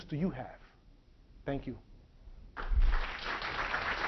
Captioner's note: clapping